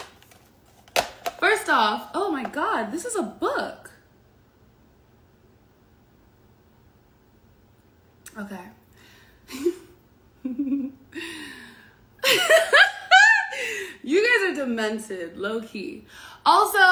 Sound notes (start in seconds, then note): 10.4 giggles; 12.1 laughs